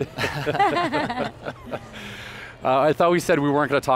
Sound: laughing

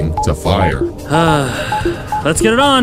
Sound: sighs

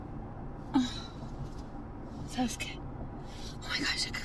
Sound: Janet sighs

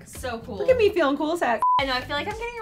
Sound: beep

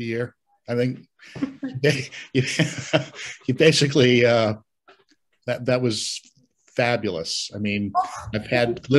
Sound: laughs

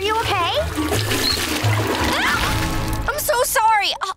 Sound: shrieking

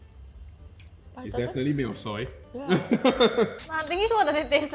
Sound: laughs

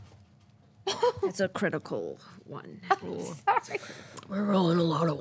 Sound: laughs

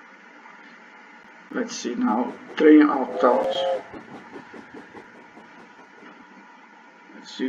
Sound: sound of locomotive

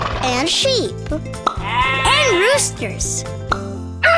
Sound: baaing; crowing

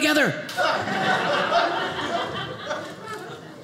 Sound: audience laughing

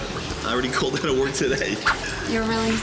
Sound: laughs

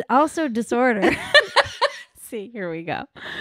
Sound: laughing

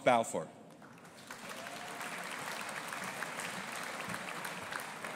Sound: audience applauding

